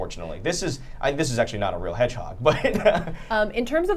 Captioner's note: laughs